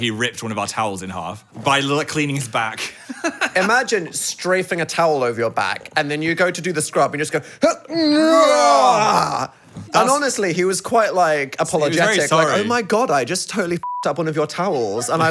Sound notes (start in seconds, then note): 7.6 groaning; 13.8 beep